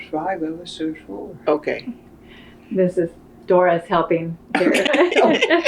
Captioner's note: laughter